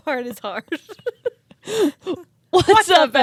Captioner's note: both laughing